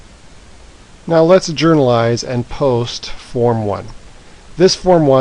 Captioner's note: voiceover